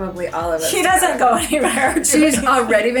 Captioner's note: laughs